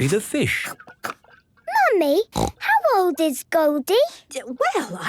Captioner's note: snorting